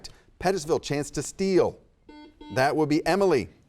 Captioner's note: buzzer beeps